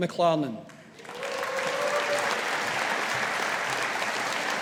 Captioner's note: audience applauding